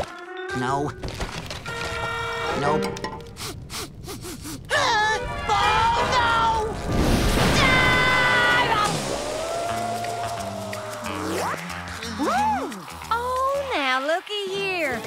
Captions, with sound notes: No. Nope. [sniffing] Huh? Oh, no! [screaming] Ooh! Oh, now, lookie here.